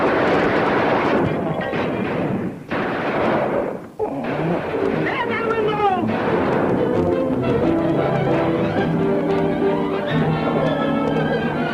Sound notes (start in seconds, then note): 0.0 gunshots ringing out; 6.4 gunshots ringing out; 7.6 tense music continues